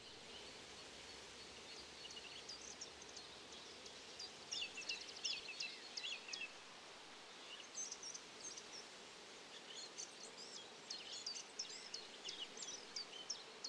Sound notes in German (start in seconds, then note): 0.1 Wind in den Baumblättern; 2.5 Gesang eines Ziplzalps